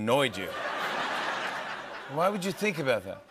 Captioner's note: laughter